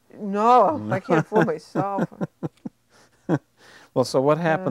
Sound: chuckling

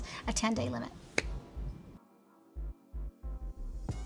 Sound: hands clapping

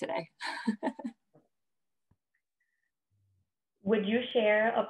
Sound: laughter

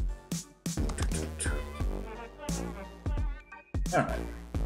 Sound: hums

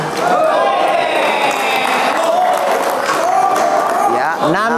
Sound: applause

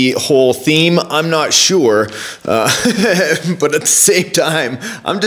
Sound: laughs

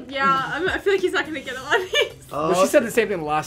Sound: laughs

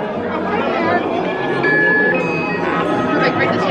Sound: machine beeping

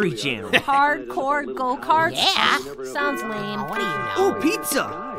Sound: doorbell

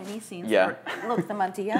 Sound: chuckling

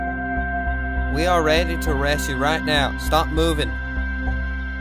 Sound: texan accent

